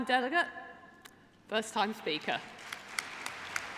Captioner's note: applause